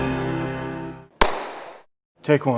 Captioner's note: hands clap